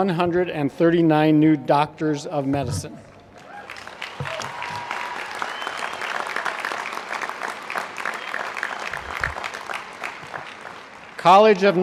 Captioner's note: applause